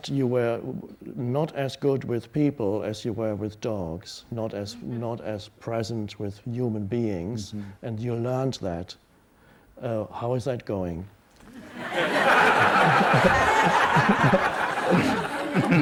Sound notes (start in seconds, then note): 11.5 audience laughs; 12.0 Millan laughs